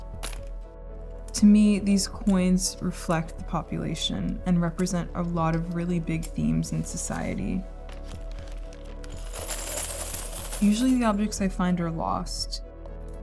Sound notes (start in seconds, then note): 8.0 coins clinking